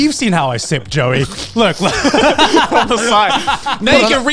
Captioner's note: everyone laughs